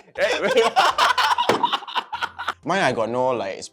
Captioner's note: laughs